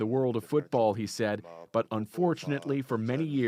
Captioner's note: speaking alternate language